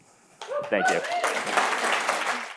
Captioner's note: applause